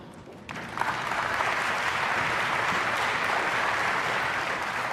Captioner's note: audience applauds